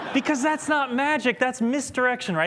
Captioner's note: laughter